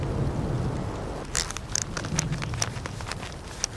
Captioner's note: clicking